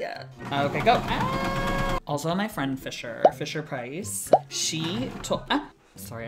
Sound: screams

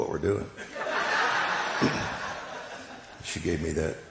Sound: congregation laughing

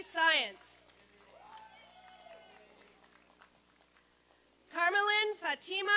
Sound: applause and cheering

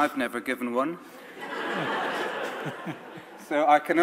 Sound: audience laughs

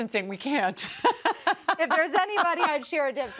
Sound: laughing

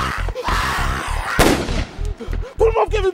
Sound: gun fires

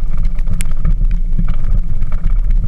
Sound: engine sounds

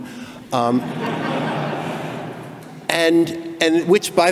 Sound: laughing

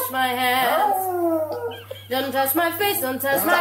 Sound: dog howls with the singer

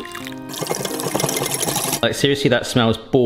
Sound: whisk rattling

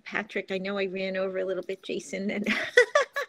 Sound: laughs

